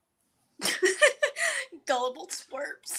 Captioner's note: Florence laughs